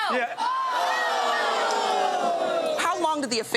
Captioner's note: audience exclaiming